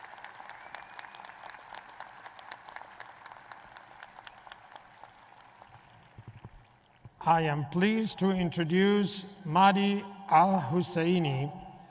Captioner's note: applae